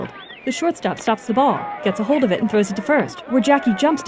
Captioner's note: crowd cheering and shouting